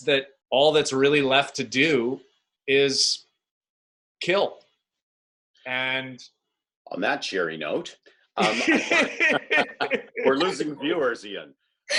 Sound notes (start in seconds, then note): 8.4 laughing